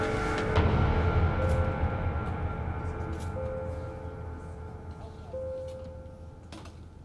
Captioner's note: machine beeping